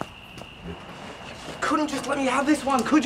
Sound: cicadas chirping

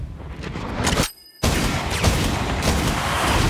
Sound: gunfire

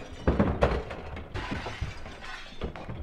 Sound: breaking noises

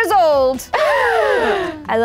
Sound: gasp

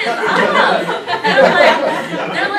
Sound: laughter

